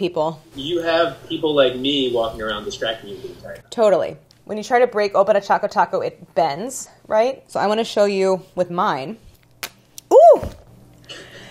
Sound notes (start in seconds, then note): 9.3 softly snaps